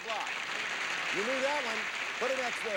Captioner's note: audience applauding